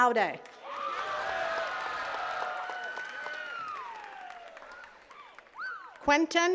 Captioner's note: attendees cheering and clapping